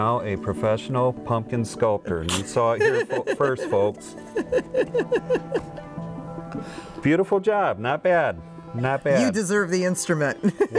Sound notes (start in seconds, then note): 2.7 woman laughs